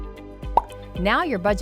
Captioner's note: pop